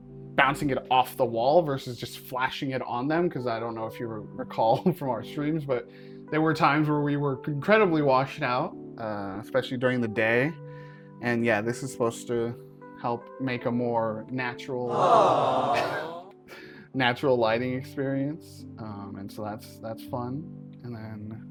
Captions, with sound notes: bouncing it off the wall versus just flashing it on them 'cause I don't know if you recall from our streams, but there were times when we were incredibly washed out uh, especially during the day. And, yeah, this is supposed to help make a more natural— (Studio audience soundbite: AWWW) —natural lighting experience. Um and so that's fun.